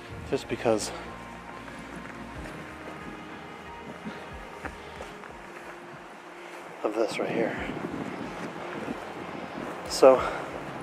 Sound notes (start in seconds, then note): 0.0 gentle music; 2.3 gentle music; 9.0 wind whooshing